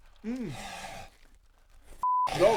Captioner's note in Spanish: exhala